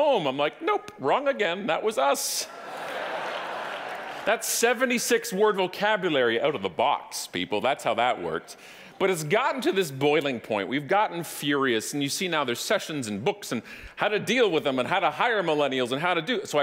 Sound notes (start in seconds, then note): 2.7 audience applauding